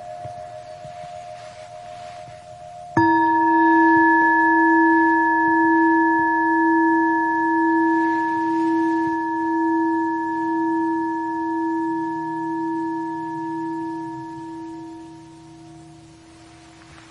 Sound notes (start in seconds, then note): 2.7 bell chiming